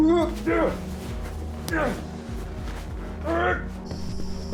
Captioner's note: people groaning